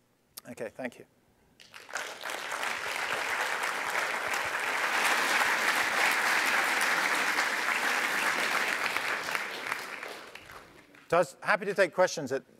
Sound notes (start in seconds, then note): 1.6 applause